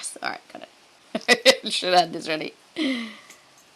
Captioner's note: chuckles